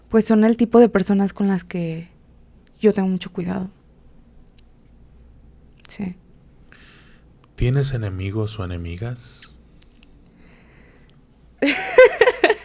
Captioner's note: laughs